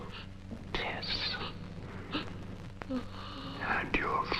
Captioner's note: Tess groaning